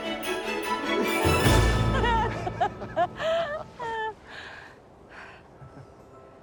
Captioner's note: both laughing